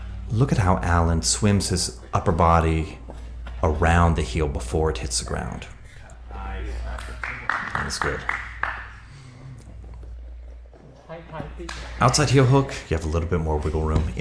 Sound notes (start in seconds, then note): 6.9 spectator applauds; 11.6 hands slap